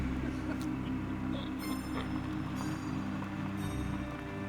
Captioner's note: eerie music; car rumbling